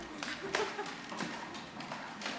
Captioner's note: laughing